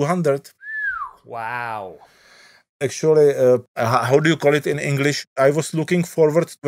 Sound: whistles

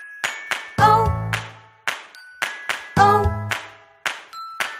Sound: clap

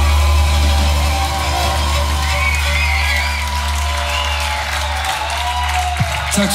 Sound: cheering

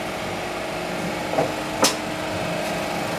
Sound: machine whine

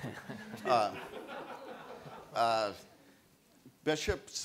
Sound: audience laughs

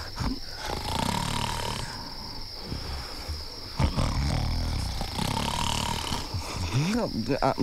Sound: snoring

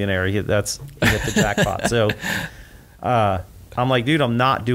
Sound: laughs

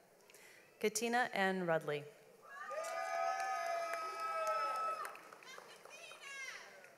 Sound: audience applauds

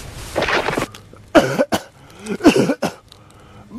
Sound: coughing

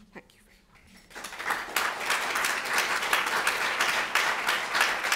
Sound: audience applauds

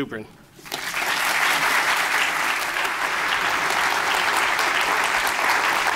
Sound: applause

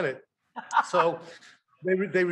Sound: Rachael laughing

